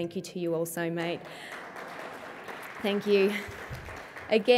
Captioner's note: applause